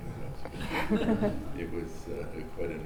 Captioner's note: laughing